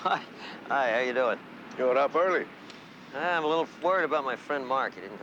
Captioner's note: laughter